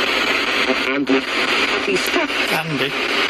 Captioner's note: Ovilus speaking